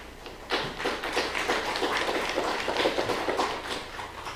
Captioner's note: applause